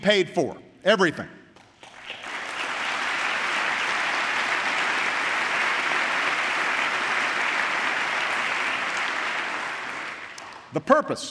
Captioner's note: applause